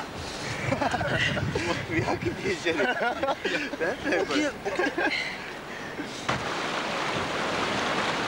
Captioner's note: laughs